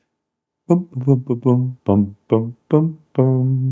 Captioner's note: humming